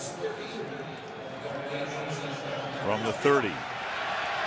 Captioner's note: pa announcement